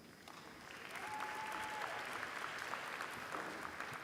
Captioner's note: applause